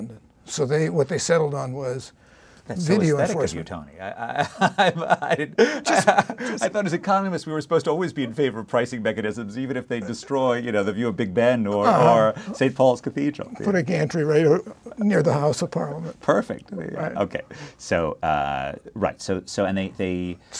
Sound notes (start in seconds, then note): 4.2 laugh